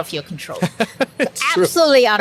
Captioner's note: laughs